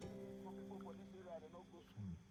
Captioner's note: man talking outside